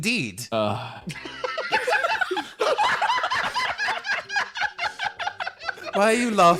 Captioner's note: cackling